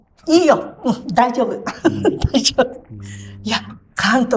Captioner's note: laughs